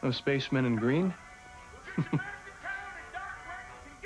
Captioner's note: chuckles